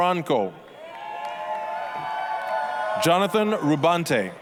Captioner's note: applause, cheering